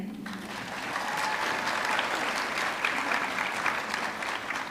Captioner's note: audience clapping